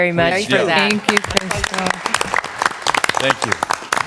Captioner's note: applause